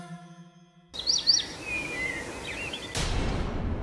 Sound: birds chirping

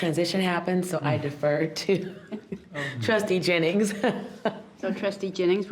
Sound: laughs

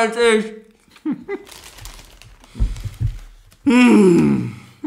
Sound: moans

